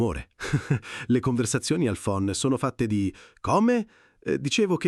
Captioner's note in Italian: Haha